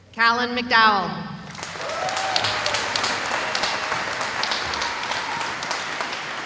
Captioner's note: cheering